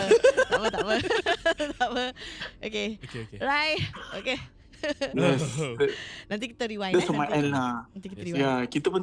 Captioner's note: all in awkward laughter